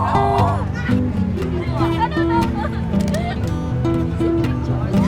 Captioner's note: kids mumbling; acoustic music